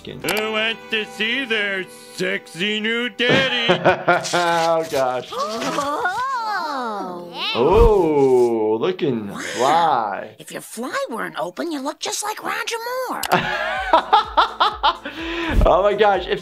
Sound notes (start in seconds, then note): 5.6 all gasping; 13.1 laughs